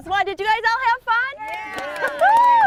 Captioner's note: crowd: "yeah!"; applause